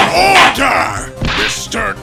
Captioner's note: gavel slams!